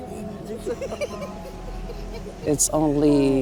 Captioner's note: performers laughing